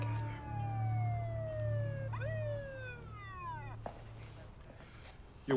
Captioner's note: police siren wailing